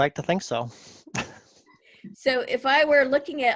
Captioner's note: giggles